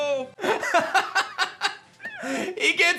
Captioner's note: laughs